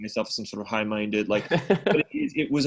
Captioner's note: laughs